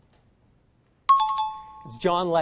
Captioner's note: chiming